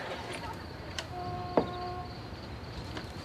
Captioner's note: horn blowing